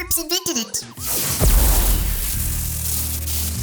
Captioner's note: zap